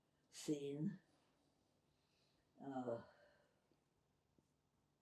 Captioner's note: pauses 6 seconds